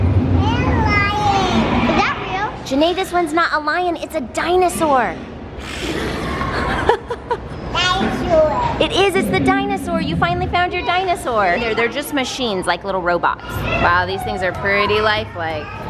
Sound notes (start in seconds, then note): 5.4 roars; 5.8 laughs